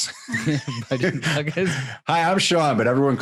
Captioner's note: laughing